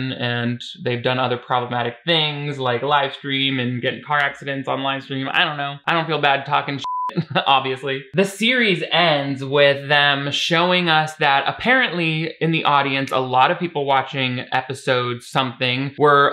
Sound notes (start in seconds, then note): 6.8 beep